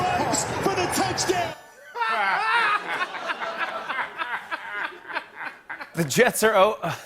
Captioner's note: laughter